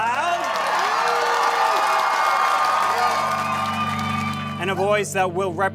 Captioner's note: cheering and applauding